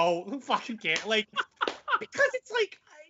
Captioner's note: laughing